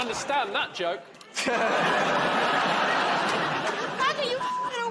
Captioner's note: laughter